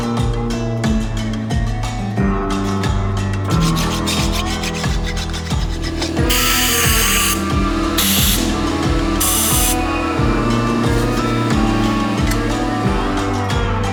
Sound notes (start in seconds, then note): 3.9 scraper rasping; 5.8 air pressure hissing; 9.7 upbeat brooding western music